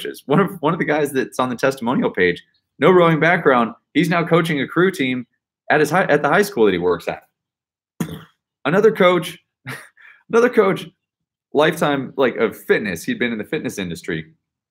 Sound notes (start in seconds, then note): 8.0 mimics explosion; 9.7 laughs